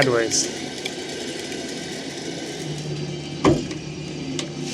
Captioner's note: trailer whirring